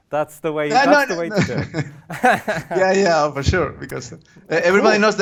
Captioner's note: laughter